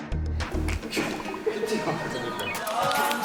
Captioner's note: interview was full of laughter